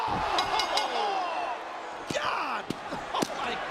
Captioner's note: bell ringing